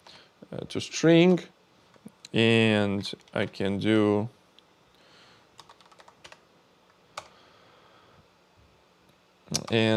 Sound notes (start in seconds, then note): 5.6 keyboard clicking